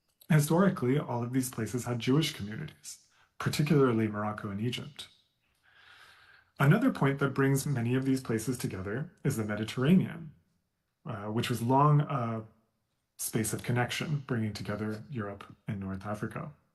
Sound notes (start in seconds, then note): none